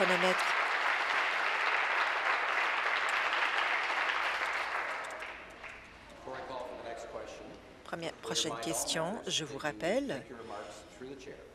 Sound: applause

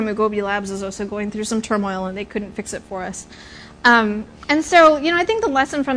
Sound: none

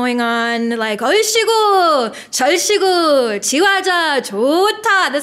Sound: foreign language

